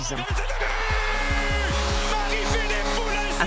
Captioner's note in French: cris des spectateurs